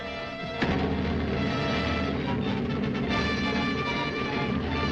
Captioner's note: submarine rumbling